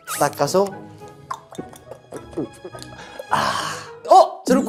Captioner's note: drinking